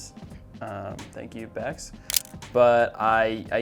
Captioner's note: camera shutter clicks